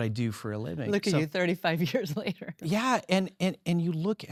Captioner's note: laughs